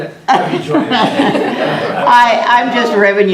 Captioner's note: laughter